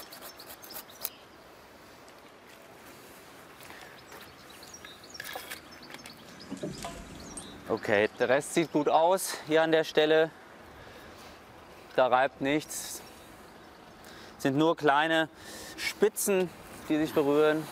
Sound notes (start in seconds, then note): 6.4 impact